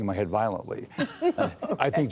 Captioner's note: laughter